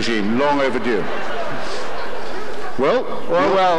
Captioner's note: audience arguing